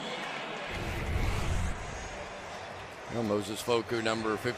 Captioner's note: pa announcement